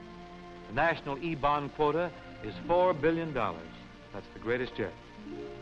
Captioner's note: none